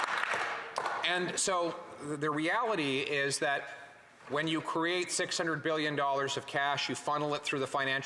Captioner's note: some Applause